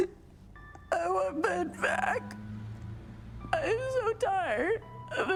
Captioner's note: sobs